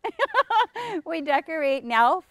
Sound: laughs

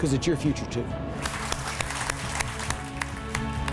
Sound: applause

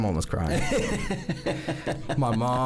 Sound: laughs

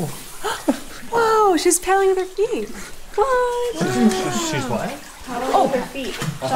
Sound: gasp

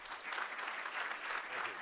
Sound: applause

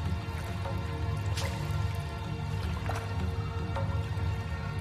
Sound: footsteps under water

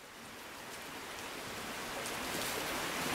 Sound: rainfalls

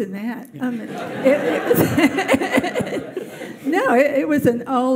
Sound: audience laughs

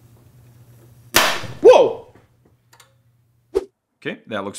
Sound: bang

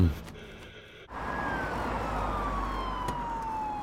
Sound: siren

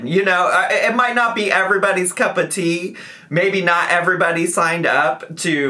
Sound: none

